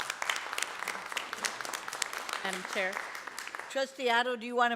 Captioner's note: applause